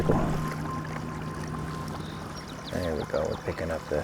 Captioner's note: water flowing gently